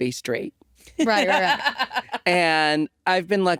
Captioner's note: laughing